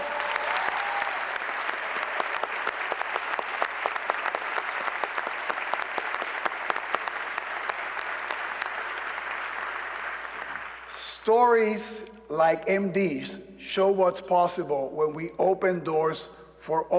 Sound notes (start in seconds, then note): 2.3 cheers and applause